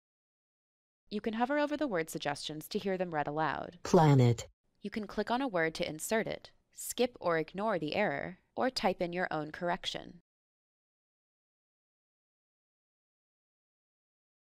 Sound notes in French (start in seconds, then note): 4.1 Voix D'ordinateur